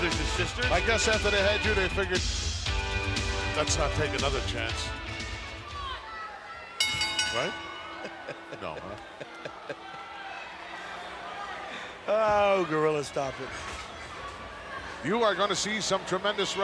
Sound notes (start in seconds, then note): 7.9 laughs